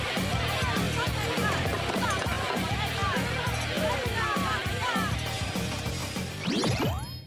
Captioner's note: girls shriek; crowd shouting indistinctly